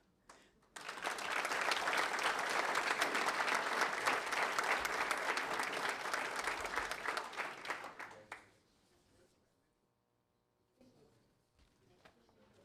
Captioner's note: applause